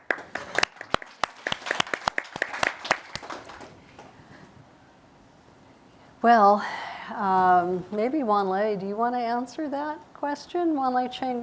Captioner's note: applause